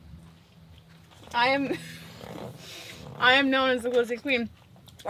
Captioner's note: laughs